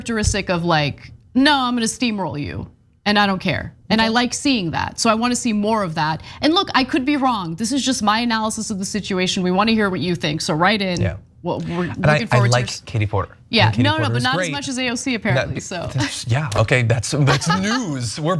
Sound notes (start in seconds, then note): 15.3 laugh